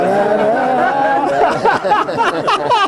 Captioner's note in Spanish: risas